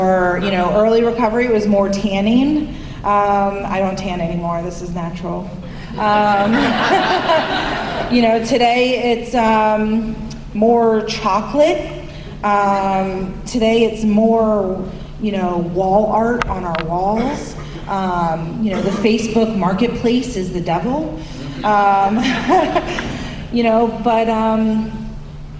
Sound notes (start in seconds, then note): 6.0 laughter; 22.1 laughter